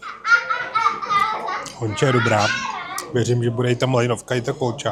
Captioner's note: laughs